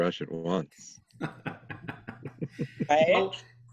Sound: group laughs

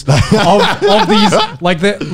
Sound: laughing loudly

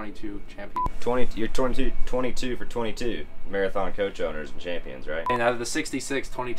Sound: beep!

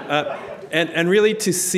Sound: audience laughing

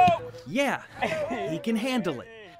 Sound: sounds of football practice

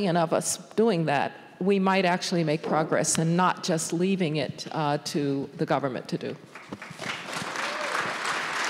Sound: applause

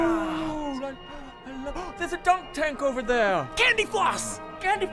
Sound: gasp

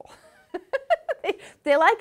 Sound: laughs

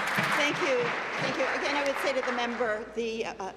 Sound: applause

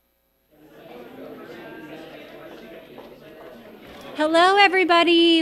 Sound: crowd chattering

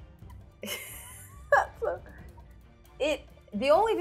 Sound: laughs

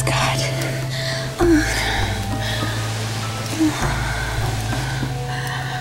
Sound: gasping and moaning

